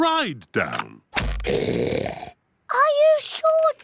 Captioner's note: oinks loudly